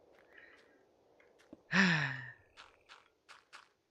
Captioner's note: sighs